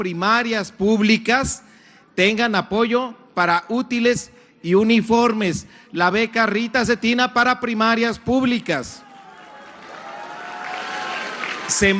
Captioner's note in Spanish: aplausos